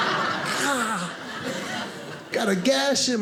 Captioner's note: audience laughing; groans